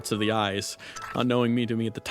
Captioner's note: awful Goopy Noises